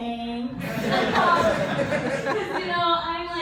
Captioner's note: laughter